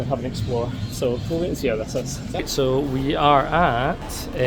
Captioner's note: none